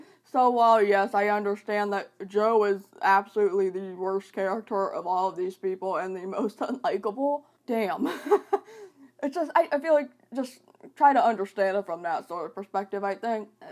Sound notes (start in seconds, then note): 8.0 laughter